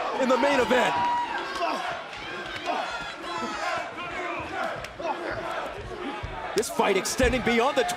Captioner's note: crowd cheering